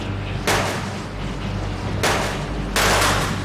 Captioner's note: loud bangs